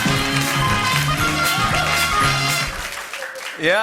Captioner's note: applause